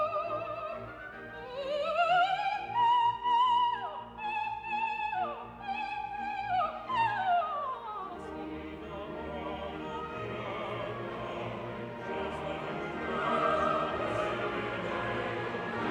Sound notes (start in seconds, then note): none